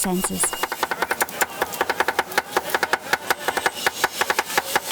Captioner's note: chopping noise